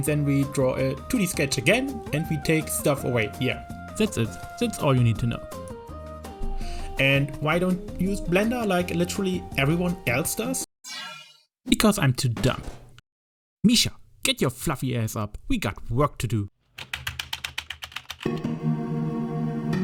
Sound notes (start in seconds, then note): 16.8 typing paws noise